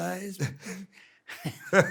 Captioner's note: laughs